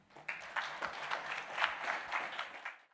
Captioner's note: applause